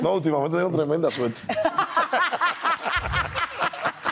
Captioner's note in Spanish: Risas